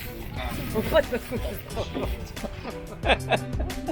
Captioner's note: chuckles